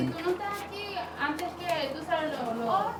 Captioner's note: women speaking Spanish